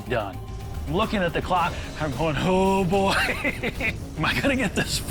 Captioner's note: laughs